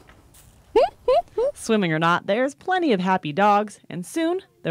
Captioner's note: laughter